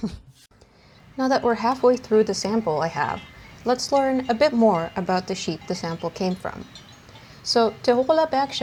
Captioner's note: gremlin giggles; sheep flock in the mountains noises throughout this segment